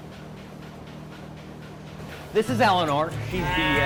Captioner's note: machine pumping